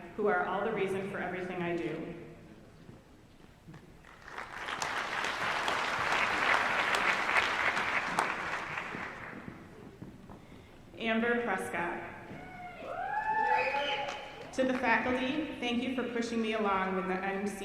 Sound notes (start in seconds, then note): 4.0 applause; 12.4 audience cheering